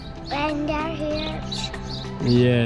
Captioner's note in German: murmelt